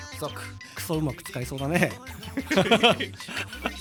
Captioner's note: giggle